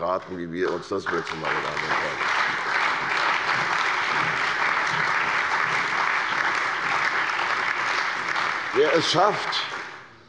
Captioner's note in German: Allgemeiner Beifall